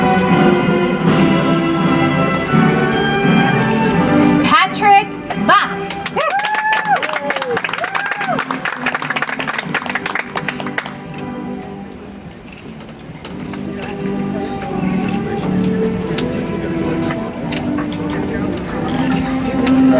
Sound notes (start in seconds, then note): 9.7 audience applauds; 14.7 soft music